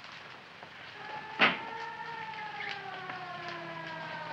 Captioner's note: siren wailing